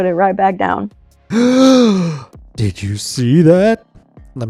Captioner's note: exaggerated gasp